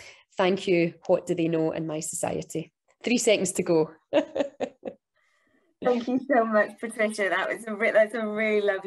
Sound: laughs

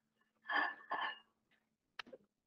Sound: plate Noise

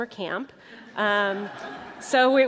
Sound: laughter

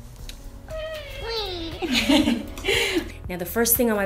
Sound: laughter

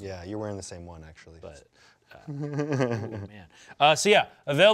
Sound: laughs

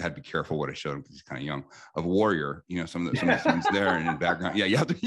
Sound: laughs

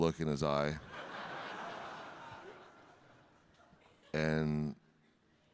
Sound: audience laughing

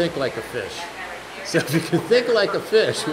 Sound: laughs

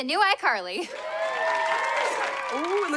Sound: cheering

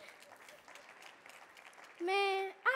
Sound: audience clapping

